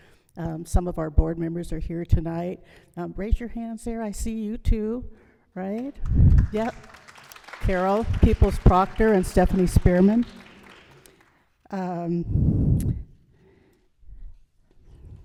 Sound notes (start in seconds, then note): 5.7 applause